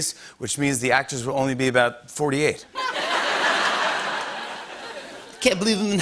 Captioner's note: laughter